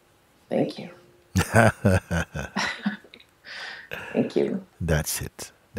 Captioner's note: Mooji lacht